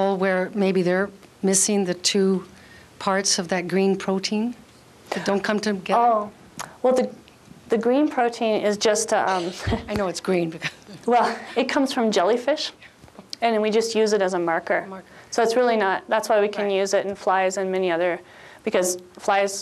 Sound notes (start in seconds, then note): 10.6 chuckles